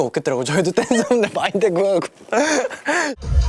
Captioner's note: snorts